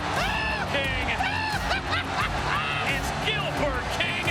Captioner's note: Jerry laughing